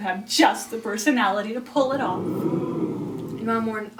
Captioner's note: audience laughing